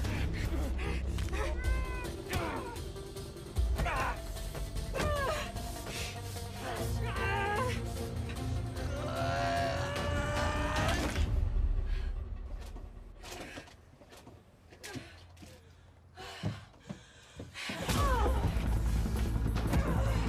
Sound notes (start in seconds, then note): 0.0 people groaning; 1.3 bones cracking; 6.4 people groaning; 7.3 neck cracking; 14.9 Tara breathing heavily; 17.8 Tara groaning; 17.9 dramatic music; 19.5 people groaning; 20.0 blows thudding